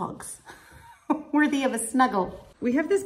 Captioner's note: laughs